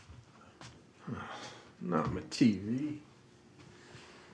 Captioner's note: sighs